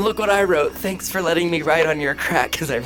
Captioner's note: laughs